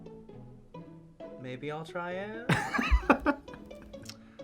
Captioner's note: laughs